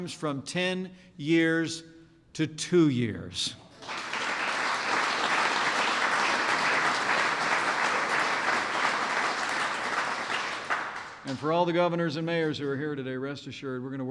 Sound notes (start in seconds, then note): 3.7 applause